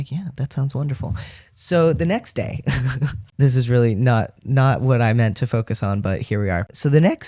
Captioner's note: laugh